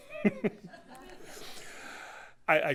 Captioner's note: laughter